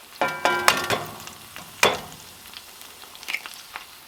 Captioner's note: sizzling